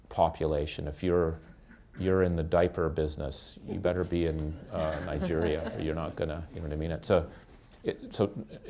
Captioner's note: laughter